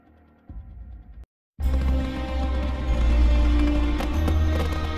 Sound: fireworks crackling as orchestral music plays

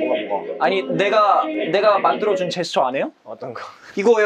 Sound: disappointed

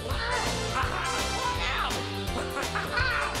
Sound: squawking

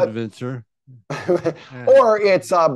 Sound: chuckles

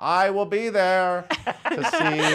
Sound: hosts laugh

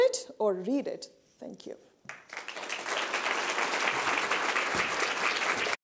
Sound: audience applauding

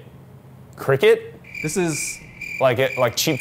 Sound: crickets Chirping

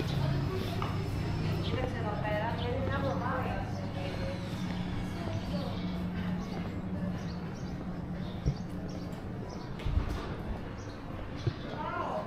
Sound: people chattering

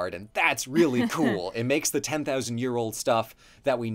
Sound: laughs

